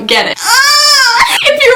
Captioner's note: squealing